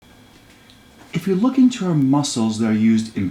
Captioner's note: voiceover